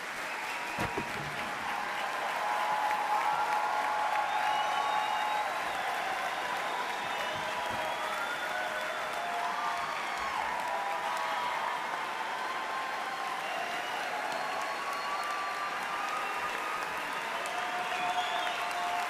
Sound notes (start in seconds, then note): 2.1 applause